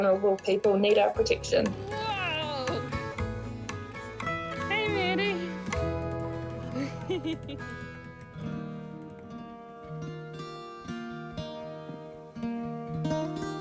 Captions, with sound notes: 'our vulnerable people need our protection.' Whoa! Hey, Maddie. (CHUCKLES) (GENTLE ACOUSTIC GUITAR)